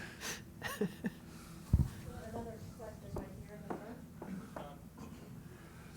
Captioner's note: laugh